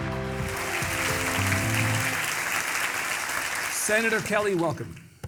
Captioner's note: audience clapping